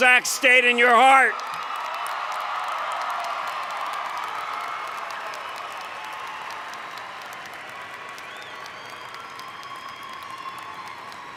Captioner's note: cheering